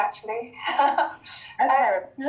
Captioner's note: laughing